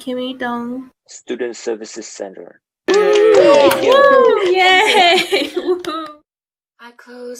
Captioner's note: applause